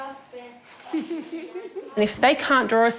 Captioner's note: giggles; chuckles